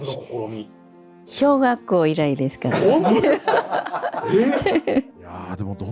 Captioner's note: laughs